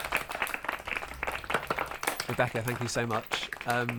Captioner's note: applause